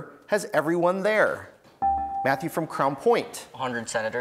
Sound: buzzer beeps

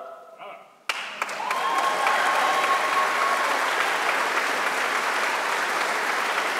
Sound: audience applauding; audience cheering

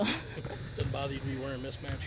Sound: laughs

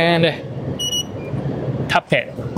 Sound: machine beeps

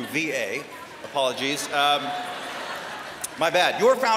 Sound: laughter

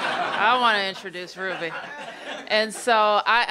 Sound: laughter

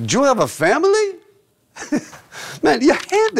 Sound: laughing

